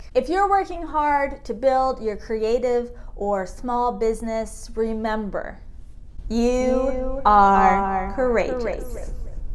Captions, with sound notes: If you're working hard to build your creative or small business, remember, (voice echoing) you are courageous.